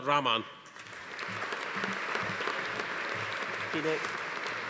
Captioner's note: audience applauding